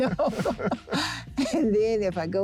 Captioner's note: air whooshing